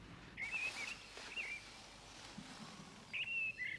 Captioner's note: birdsong